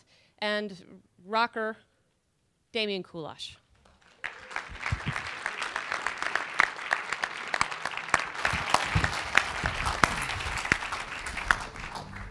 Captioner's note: applause